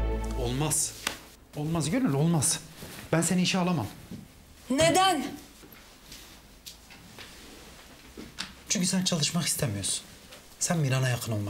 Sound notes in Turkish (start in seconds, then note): none